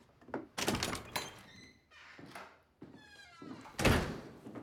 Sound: door opens, shuts

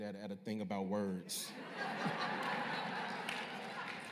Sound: laughter

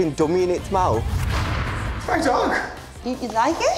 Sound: air whooshes

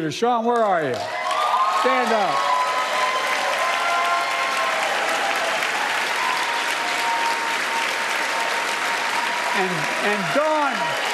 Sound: applause

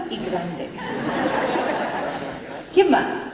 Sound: laughter

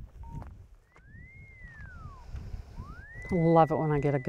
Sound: growing buzzing sound emanates from electromagnetic line locator

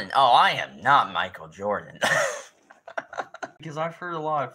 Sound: insert more laughing

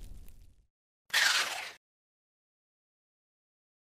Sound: chomping

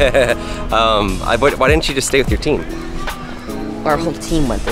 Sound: laughs

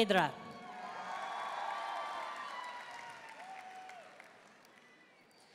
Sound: audience cheering and applauding

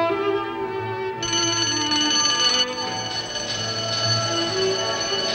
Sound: bell ringing

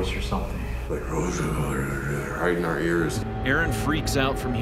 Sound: raspy voice

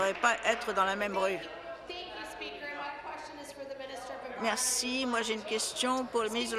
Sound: applause

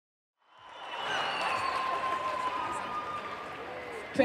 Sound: audience cheering

